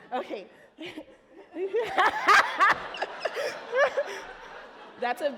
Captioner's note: laughing